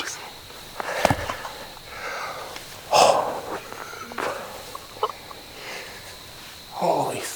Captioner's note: exhales / laughing